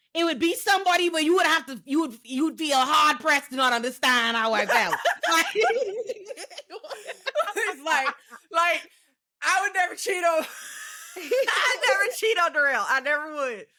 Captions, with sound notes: it would be somebody, but you would have to, you would, you would be a hard press to not understand how I felt. (laughing) It's like, like, I would never cheat on, I would never cheat on the real, I never would.